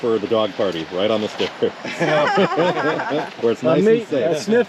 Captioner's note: laughter